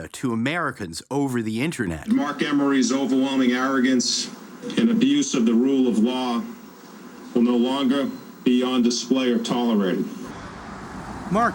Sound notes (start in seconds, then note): none